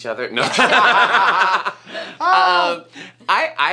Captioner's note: all laugh